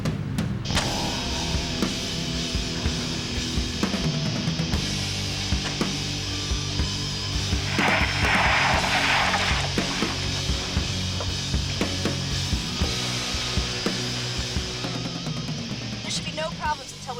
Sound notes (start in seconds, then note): 0.1 upbeat rock music; 6.9 tires screeching